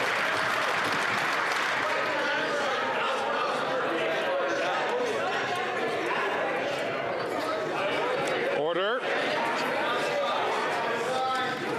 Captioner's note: some Applause